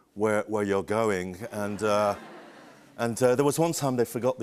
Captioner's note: laughter